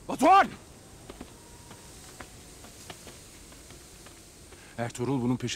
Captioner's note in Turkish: Ayak sesi